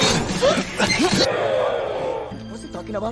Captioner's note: groan; gasps